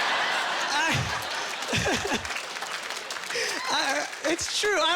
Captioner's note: laughing